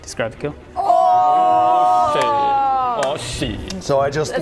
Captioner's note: collective celebrations!